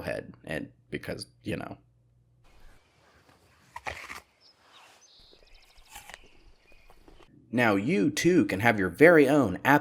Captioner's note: crunch